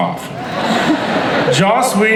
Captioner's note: crowd laughs